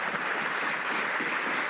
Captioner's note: some Applause